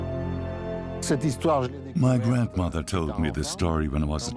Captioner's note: French dubbed into English